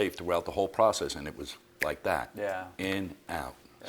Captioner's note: fingers snapping